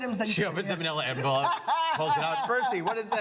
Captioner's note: laughs